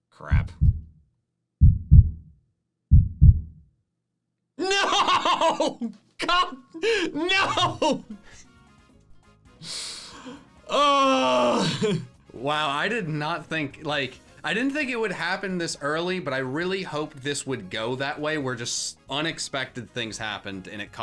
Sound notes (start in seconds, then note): 2.9 heart beating; 6.2 laughs